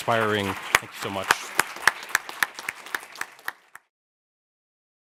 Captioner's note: all applauding